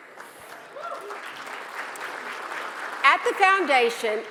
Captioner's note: audience applauds